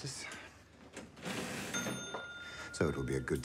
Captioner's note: register dings